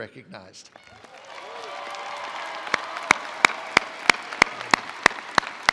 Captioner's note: attendees applauding